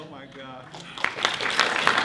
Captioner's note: clapping